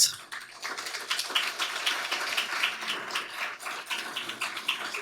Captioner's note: audience applauding